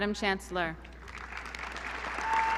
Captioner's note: applause